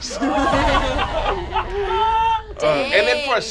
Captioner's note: laughter